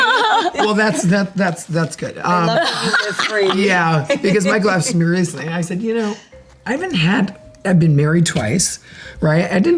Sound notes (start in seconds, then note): 2.4 Kyle laughs